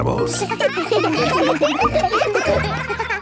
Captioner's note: children laughing